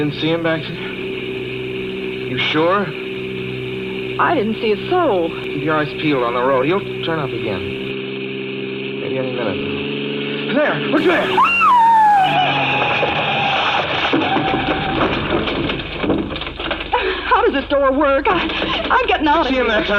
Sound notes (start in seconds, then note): 11.0 screams